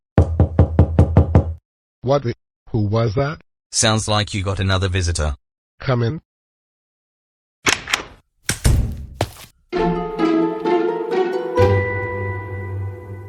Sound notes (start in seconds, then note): 0.2 knocking on door; 8.4 door closes, footsteps